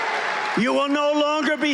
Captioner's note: cheering